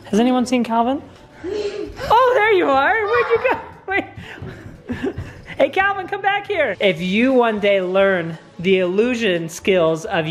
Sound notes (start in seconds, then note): 2.9 laughs; 2.9 giggles